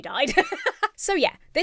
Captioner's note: laughs